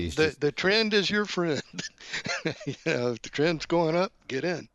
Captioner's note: laughs